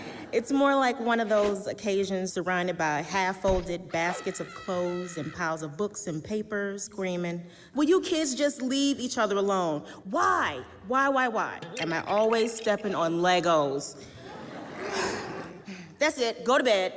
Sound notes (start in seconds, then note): 0.9 whoosh; 4.0 whoosh, child's karate call; 14.0 audience laughs, sighs